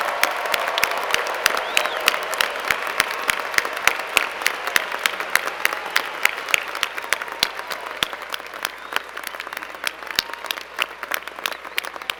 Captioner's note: applause